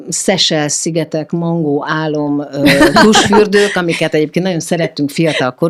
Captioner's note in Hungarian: nevetés